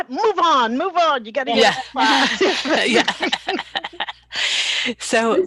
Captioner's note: laughter